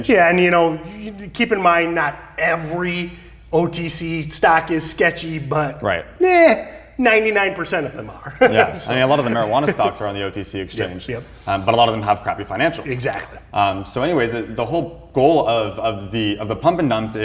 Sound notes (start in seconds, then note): 8.1 laughs